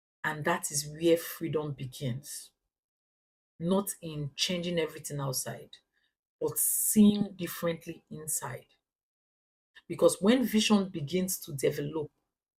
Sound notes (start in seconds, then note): 2.9 paause; 5.8 paause; 12.3 paause